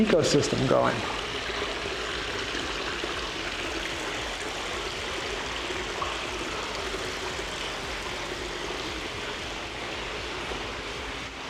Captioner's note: water running